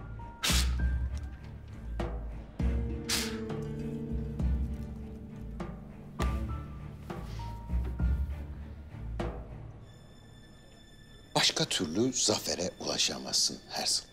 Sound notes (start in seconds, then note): 0.2 blowing sound; 2.7 blowing sound